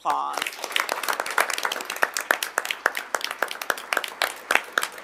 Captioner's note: audience applauding